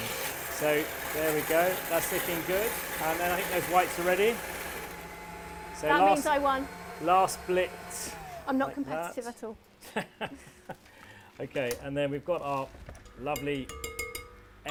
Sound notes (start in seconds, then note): 9.8 laughs